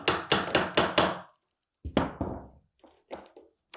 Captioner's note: hammer thumping